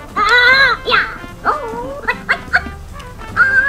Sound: toy talking

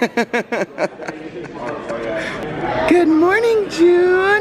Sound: laughs

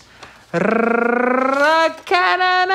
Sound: Tyler rolls tongue

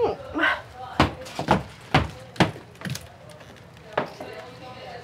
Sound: sighs; footsteps stomp

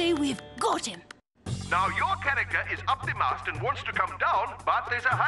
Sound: on megaphone

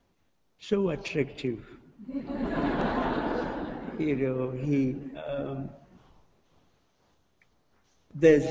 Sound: laughter

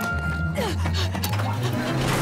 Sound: panting

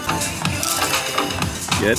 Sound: crunch

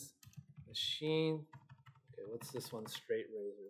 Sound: keyboard clicking

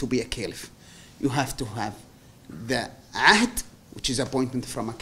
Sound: non-english

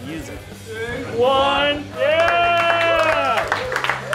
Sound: clapping

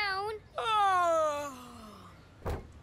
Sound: fake yawning

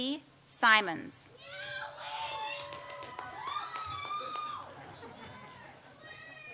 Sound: audience cheers and applauds

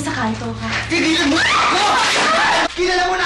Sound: Sylvia screams

